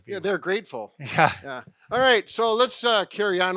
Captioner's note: chuckles